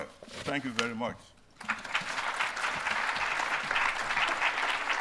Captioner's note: applause